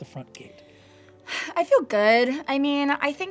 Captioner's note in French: soupire